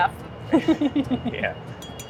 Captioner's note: laughing